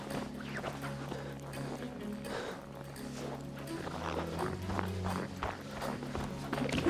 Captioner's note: sound of footsteps in the snow